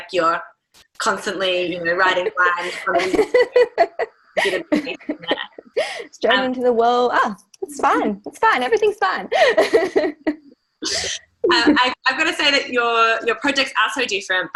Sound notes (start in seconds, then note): 1.9 laughing